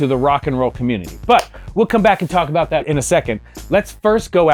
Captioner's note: claps